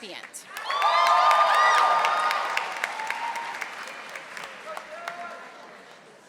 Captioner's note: audience applauding and cheering